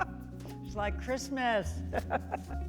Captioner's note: chuckles